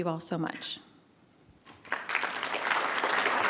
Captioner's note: applause